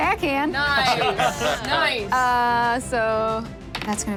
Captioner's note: group cheers; dice rolling